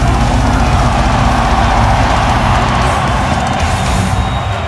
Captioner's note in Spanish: Ovación